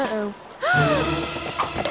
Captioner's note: gasp